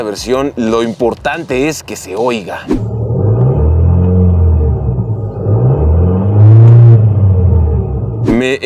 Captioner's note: engine roaring